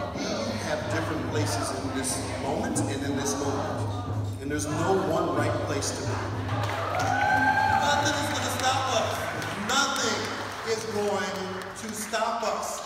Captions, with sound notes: - We have different places in this moment and in this movement, and there's no one right place to be. (crowd cheering) Nothing is gonna stop us. Nothing is going to stop us.